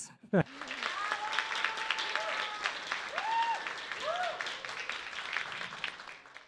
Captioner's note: crowd applauding and cheering